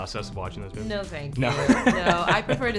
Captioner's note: laughing